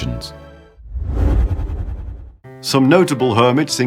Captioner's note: whoosh sound